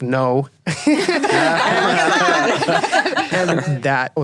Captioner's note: laughing